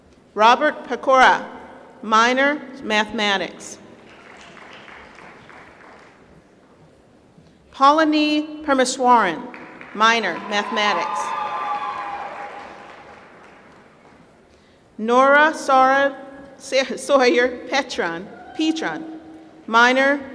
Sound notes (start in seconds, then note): 4.0 applause; 11.0 applause